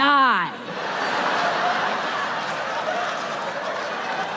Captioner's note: audience laughs